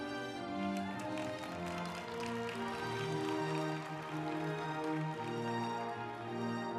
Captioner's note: uplifting music; group applauding